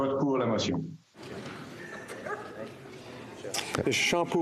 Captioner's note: speaking FRENCH